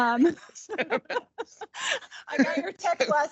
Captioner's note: laughing